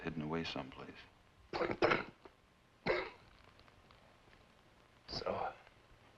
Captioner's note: coughs